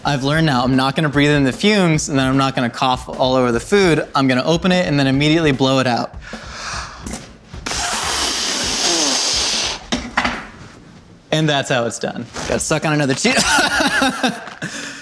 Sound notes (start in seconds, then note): 7.5 blowing air loudly; 13.3 coughs